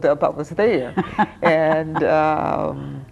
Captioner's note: laughing